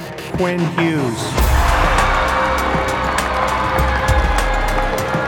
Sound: crowd cheering

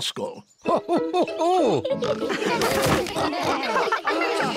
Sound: all laughing

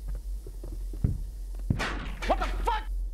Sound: metal slamming against hull

